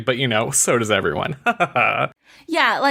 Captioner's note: fake laugh